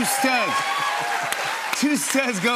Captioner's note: cheers and applause